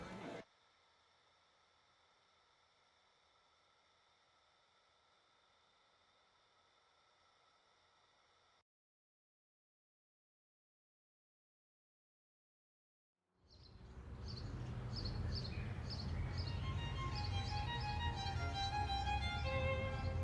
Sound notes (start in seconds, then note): 13.5 birds chirping; 16.3 dramatic orchestral music